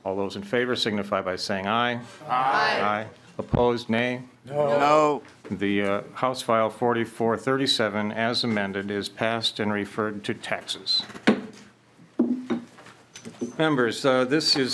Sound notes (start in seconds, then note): 7.2 chorus of ayes